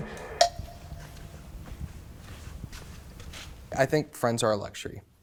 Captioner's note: feet stomping